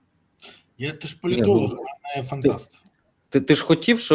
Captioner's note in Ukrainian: сопіння